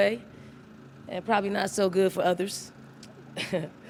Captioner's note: laughs